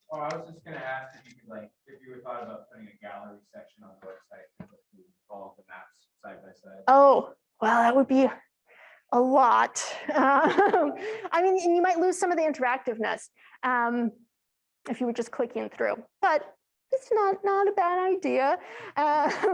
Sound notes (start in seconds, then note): 10.0 laughs; 19.3 chuckles